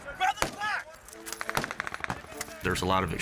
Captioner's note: gunshots